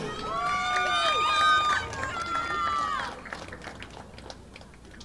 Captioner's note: audience applauding